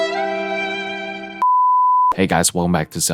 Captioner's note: beep